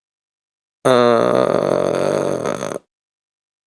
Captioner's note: fart noise